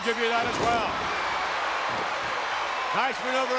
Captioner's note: crowd cheers